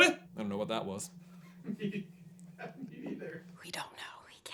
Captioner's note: laughing